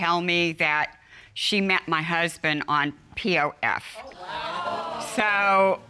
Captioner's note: audience exclaims